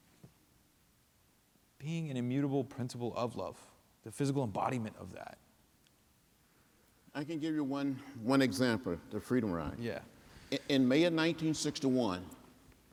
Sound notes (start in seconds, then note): none